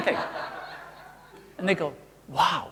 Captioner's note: audience laughing